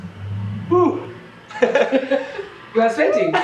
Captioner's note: sighs; laughing